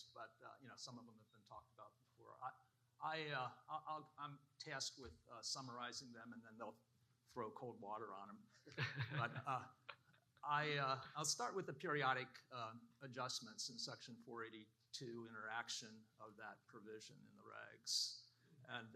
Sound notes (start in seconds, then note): 8.7 laughing